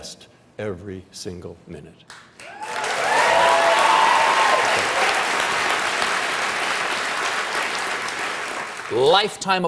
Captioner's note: cheers and applause